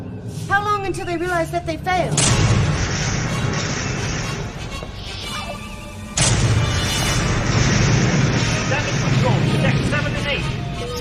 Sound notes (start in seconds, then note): 4.1 explosions